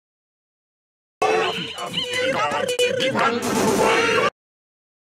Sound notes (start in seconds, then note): 0.0 sound of radio vocals